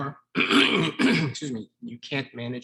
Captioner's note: clearing throat